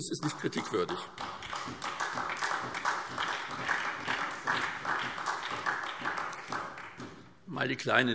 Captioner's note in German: Beifall SPD